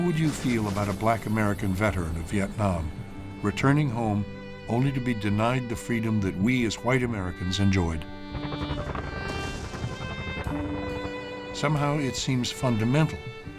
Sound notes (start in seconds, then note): 8.3 helicopters whirring, bombs exploding